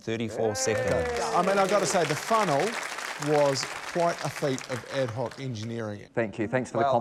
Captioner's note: applause